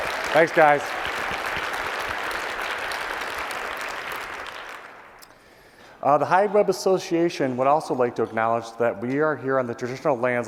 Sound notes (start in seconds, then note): 1.7 applause